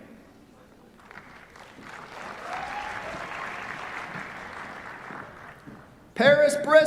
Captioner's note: applause